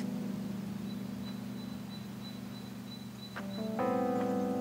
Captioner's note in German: birdsong